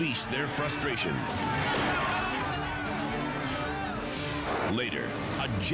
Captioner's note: people shouting